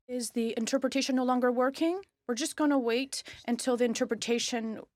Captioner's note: speaking French